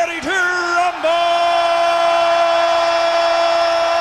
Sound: crowd cheering

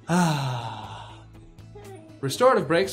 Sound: sigh of relief

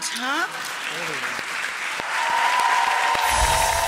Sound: audience applauding

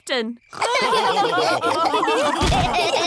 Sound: all laughing

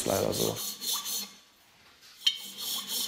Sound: grinding noises

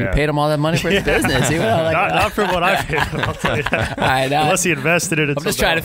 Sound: laughing

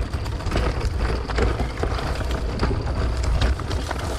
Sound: bike whirring

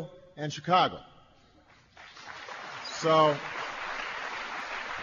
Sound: applause

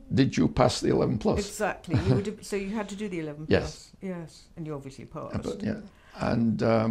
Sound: laughs

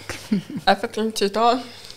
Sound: chuckles

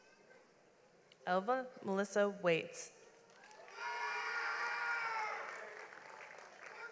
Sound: audience applauds

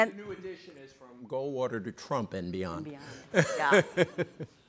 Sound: laughing

